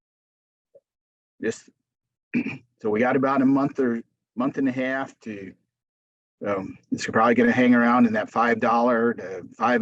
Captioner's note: clears throat